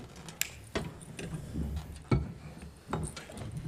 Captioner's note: door creaking